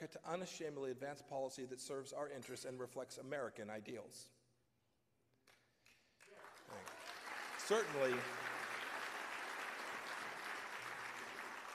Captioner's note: applause